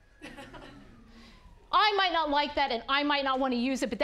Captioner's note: audience laughing